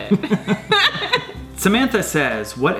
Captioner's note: both laugh